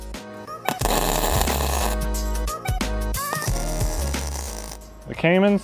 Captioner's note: flames sizzling; upbeat techno music